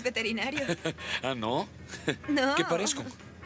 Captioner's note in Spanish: risos